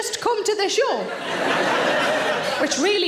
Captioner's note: audience laughing